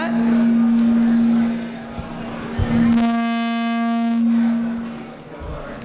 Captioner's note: microphone Feedback